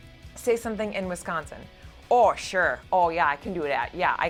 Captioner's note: wisconsin accent